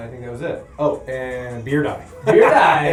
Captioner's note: laughter